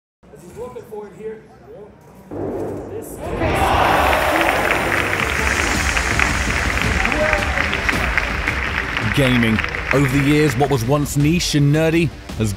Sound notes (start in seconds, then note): 2.5 electronic music; 3.2 audience applause